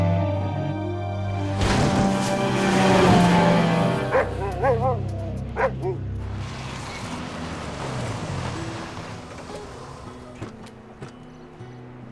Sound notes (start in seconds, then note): 3.9 Buck barking; 7.3 gentle guitar music